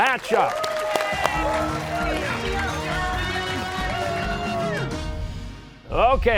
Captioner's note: cheers and applause